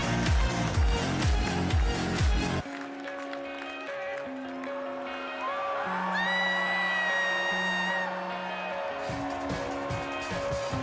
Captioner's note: cheers and applause